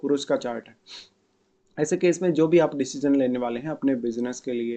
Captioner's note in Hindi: नाक से की जाने वाली आवाज़